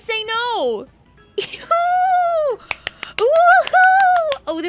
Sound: claps

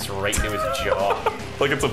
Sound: laughing

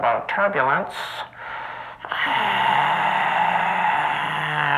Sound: sigh

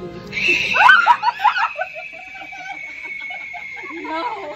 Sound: hanging spider shakes & screams; multiple screams

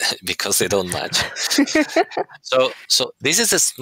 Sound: laughter

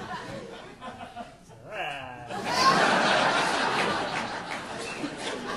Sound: audience laughing

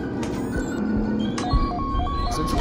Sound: beeping

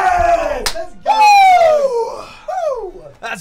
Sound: screams

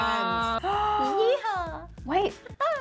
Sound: gasping

